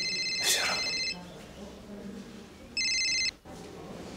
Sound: phone rings

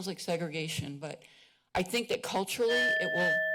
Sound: bell ringing

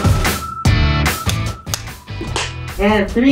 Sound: clappers

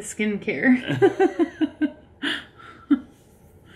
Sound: laughing

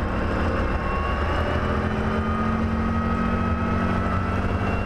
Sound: airplane engine starting

